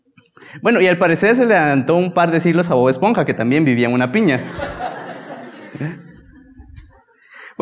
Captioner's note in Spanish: risas